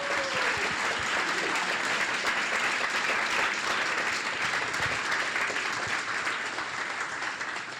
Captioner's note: applause